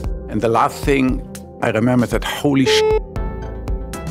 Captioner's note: beep